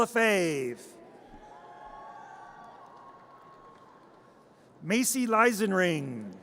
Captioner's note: audience cheers